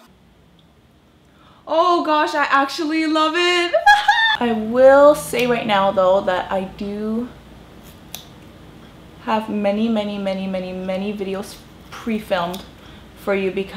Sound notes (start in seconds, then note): 3.8 laughs